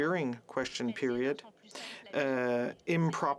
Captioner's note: speaking French